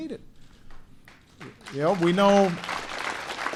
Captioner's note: applause